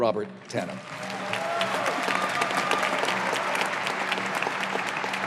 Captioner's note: audience applauding